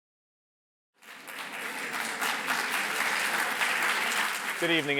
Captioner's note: applause